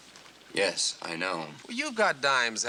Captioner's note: none